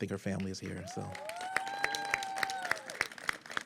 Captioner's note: applause